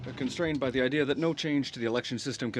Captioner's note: speaking French